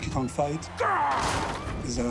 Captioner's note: growls